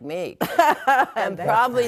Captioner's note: all laughing